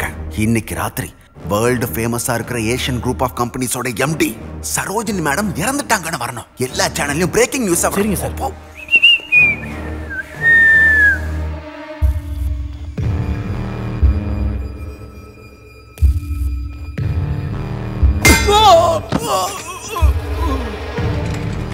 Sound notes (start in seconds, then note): 8.7 whistling